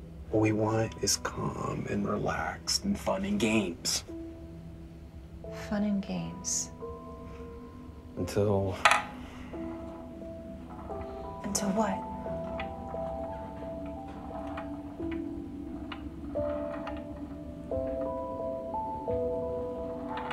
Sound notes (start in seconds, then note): 12.4 ball rolling; 12.5 gentle music